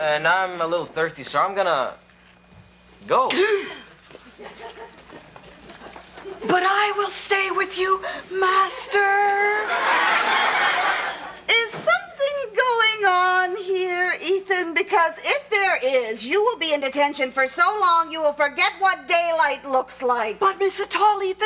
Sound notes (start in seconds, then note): 3.7 Kevin gasps; 9.5 audience laughs